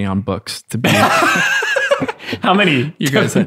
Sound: laughs

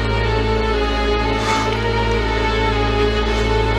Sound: Paul breathing heavily

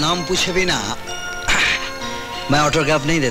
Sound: sighs

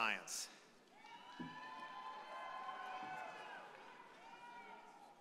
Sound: audience applauding

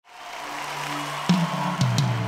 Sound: Aplausos

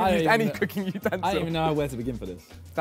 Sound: laughs

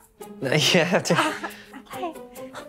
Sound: laughs

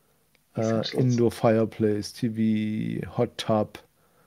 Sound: faintly speaks

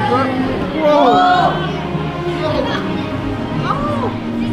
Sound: crowd yells

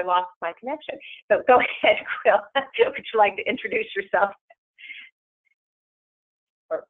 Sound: laughs

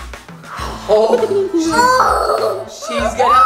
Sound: laughing

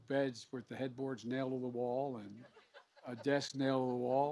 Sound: laughter

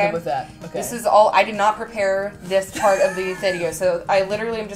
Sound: laughing in background

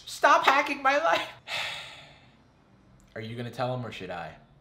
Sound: sighs

